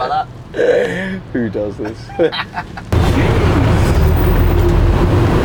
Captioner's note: laughing